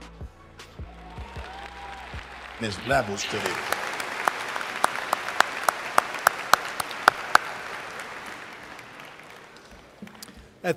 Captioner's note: video ends, applause